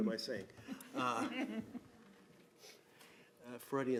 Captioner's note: laughing